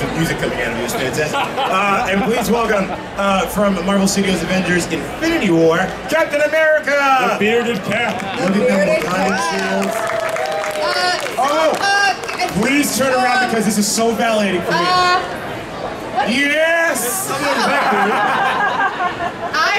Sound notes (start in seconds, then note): 8.0 audience cheering; 14.4 audience chattering drowns out male announcer; 18.8 audience laughing